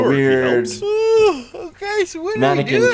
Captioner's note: Ray yawns